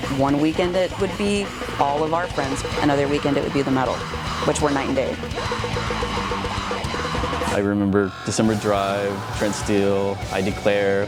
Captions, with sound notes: One weekend it would be all of our friends, another weekend it would be the metal, which were night and day. (singer screaming) - I remember The December Drive, Trent Steel, I Declare.